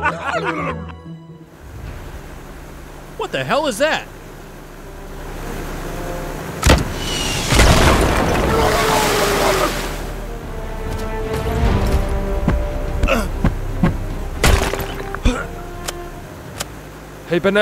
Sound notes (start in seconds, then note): 0.0 guys laughing; 6.7 explosion bangs; 7.6 fish screaming; 14.4 rock cracking